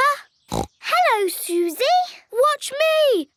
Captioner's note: snorts